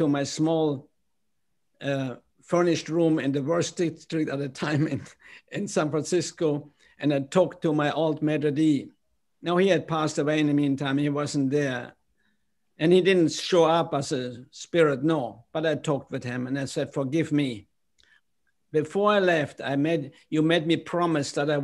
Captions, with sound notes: my small furnished room in the worst State Street at the time [LAUGHTER] in San Francisco and I talked to my old Maitre D'. Now, he had passed away. In the meantime, he wasn't there, and he didn't show up as a spirit, no. But I talked with him and I said, "Forgive me." Before I left, you made me promise that I